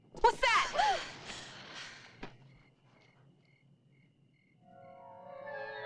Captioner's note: Carol gasping; suspenseful music